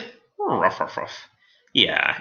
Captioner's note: alien space dog talking